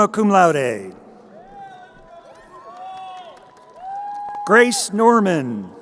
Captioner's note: crowd cheering